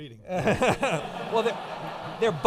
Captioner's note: audience laughing